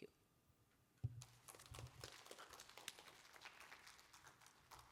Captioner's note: applause